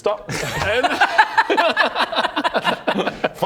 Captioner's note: tormenting laughter